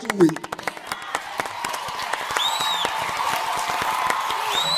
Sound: audience cheering

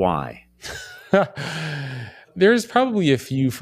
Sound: laugh

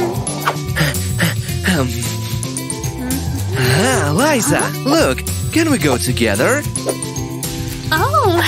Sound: panting

